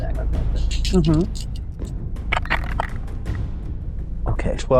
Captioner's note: dice rattling